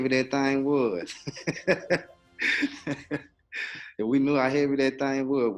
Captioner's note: laughing